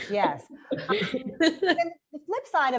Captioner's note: women laughing